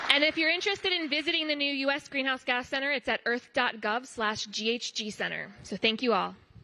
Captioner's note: applause